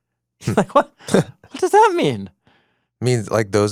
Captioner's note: laughs